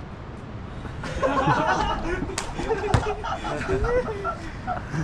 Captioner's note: laughter